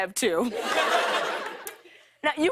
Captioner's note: laughter